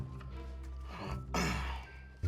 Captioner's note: clears throat